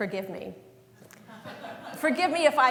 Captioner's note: laughter